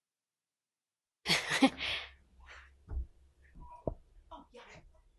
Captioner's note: chuckling